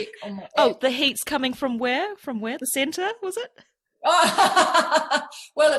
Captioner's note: laughs